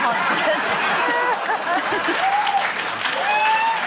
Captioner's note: laughter, cheering, applause